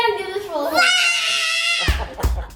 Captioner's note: girl roars; laughing